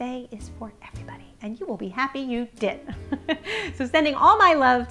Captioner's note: laughs